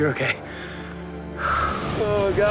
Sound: Scott exhales sharply

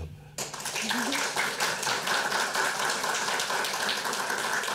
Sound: audience applauding

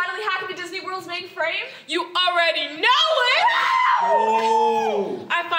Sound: cheers

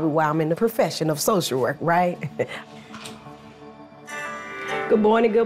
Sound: chuckles

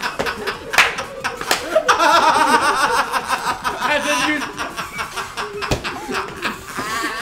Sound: laugh

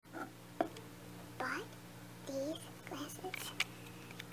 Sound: whispering

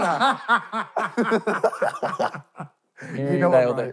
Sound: laughing

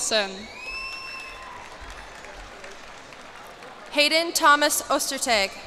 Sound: cheers and applause

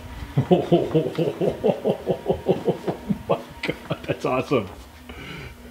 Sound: laughing heartily

